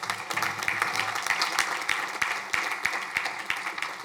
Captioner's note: crowd applauding